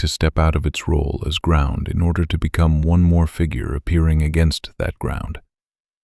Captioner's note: low voice